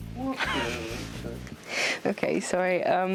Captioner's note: laughs